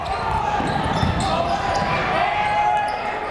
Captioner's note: yelling